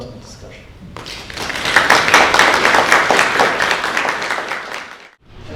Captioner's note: audience applauding